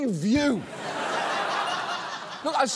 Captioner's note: laughter